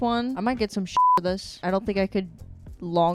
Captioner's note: beep